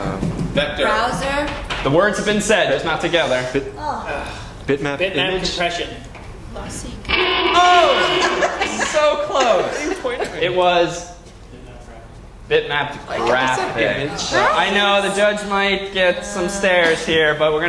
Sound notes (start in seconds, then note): 7.0 timer; 9.9 laugh